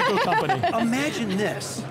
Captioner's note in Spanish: se ríe